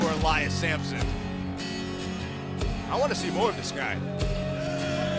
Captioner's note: crowd cheering